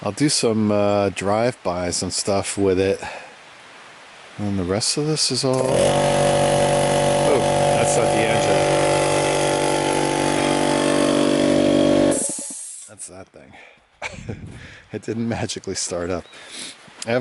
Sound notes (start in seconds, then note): 5.5 engine revving; 14.0 laughing